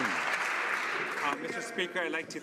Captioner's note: some Applause